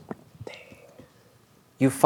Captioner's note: quietly